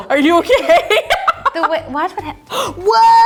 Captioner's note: laughing